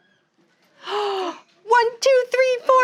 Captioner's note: teacher gasps